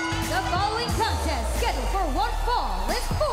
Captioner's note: bell ringing